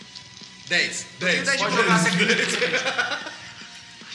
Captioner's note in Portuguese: risadas